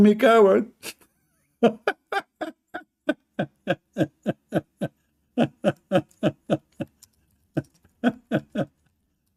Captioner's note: Ketawa